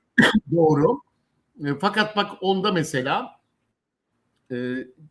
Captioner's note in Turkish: boğazını temizler